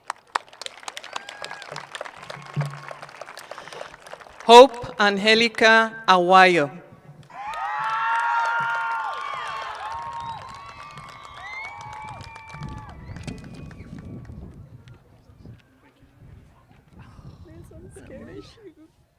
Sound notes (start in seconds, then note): 9.9 applause